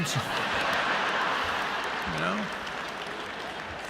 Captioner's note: laughter